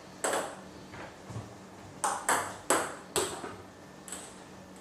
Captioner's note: balls ping pong hitting continues